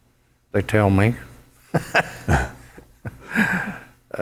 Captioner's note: laughs